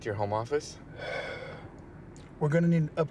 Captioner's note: exhales